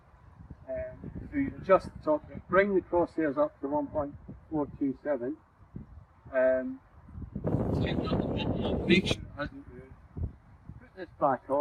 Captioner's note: extreme wind noise; extreme wind noise